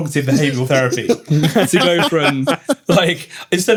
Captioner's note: laughter